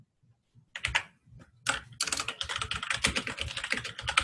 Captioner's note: typing